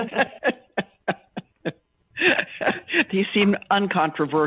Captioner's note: laughter